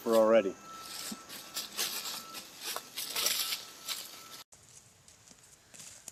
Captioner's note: leaves crunching